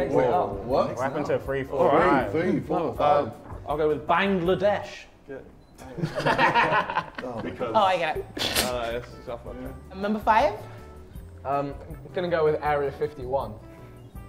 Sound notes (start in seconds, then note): 5.8 Sidemen laugh; 8.8 chuckles